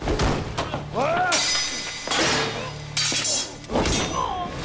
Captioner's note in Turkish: Kılıç sesleri